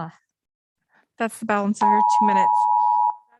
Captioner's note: beep